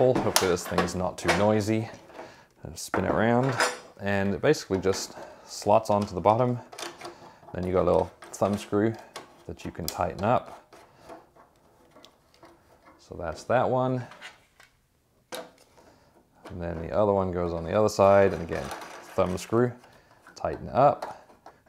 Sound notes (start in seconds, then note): 11.3 shower kit rustling; 15.5 shower kit rustling